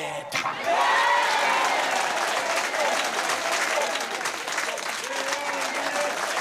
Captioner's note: cheers and applause